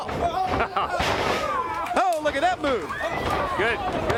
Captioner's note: crowd cheering